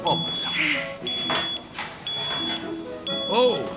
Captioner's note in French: le bip continue